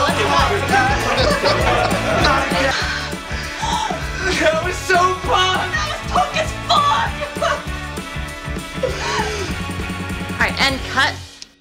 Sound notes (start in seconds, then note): 0.7 laughter; 2.8 panting